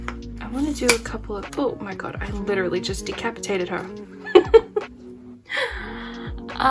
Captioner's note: laugh